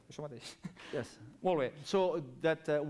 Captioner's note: non-english speech